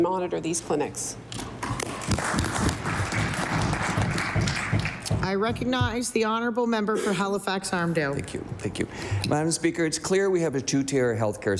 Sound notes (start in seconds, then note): 5.6 applause